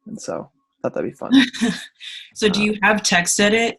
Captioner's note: laughs